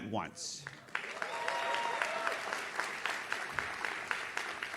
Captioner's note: audience claps